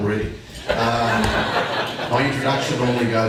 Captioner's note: audience laughing